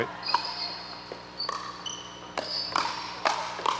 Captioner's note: ball bouncing